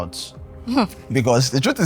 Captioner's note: laughs